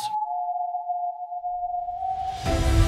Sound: creepy whistling

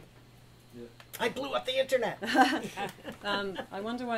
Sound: laughter

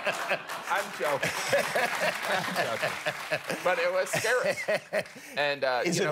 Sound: laughter

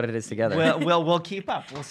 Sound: laughs

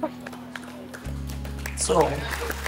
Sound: crowd applauding

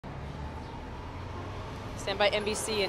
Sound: distant traffic bustling

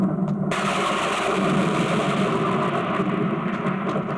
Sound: thunder crashing

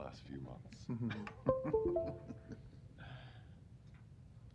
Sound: laughter

